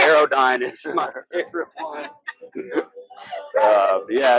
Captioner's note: laughs